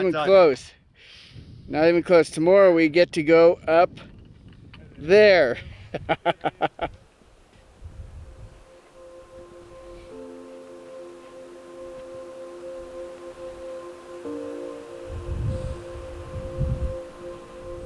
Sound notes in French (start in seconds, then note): 5.5 rires; 7.7 musique douce; 9.0 bruit du vent